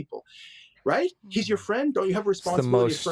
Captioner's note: murmurs